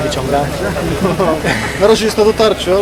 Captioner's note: laughter